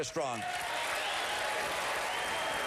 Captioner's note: applause